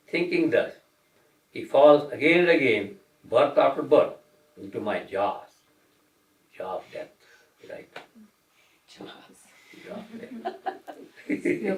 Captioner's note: laughter